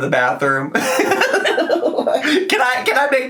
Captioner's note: giggling